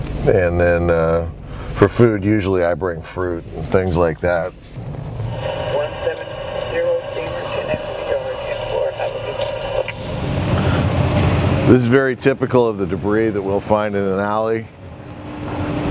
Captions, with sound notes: And then for food I usually bring fruit and things like that. (radio chatter) This is pretty typical of the debris that we'll find in an alley.